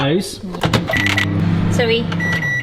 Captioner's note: microwave beeping